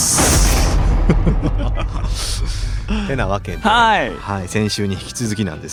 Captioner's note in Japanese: 笑い